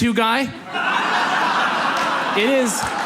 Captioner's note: audience laughs